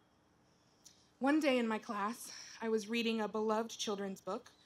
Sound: none

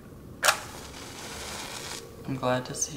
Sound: match striking

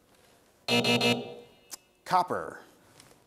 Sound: buzz

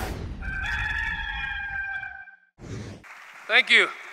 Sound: rooster crows

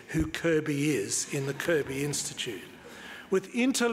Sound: audience laughs

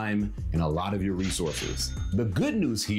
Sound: cash register chimes

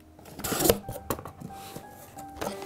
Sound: box Opening

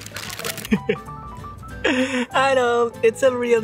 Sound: laugh

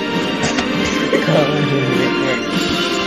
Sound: laughter

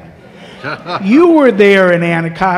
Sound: laughter

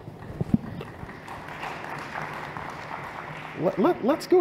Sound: applause

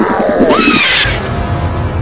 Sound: loud shriek

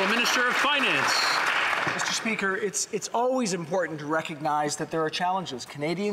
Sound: some Applause

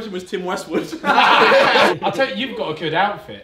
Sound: all laugh

